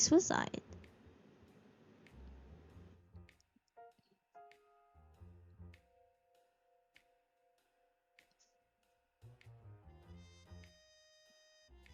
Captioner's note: long pause